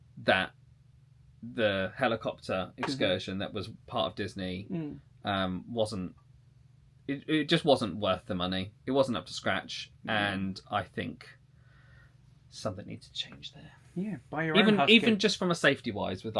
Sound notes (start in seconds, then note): none